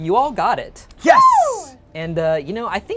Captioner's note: cheering